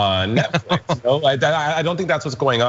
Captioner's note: laugh